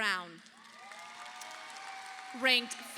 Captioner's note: audience applauding